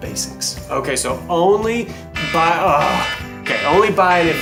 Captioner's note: buzzer dings